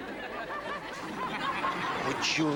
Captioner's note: audience laughs